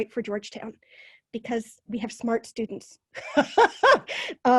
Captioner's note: laughs